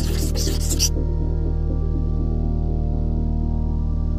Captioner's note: marker scribbles